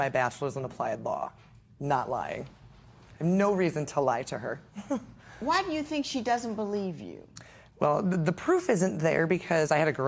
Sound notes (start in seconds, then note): 6.7 chuckles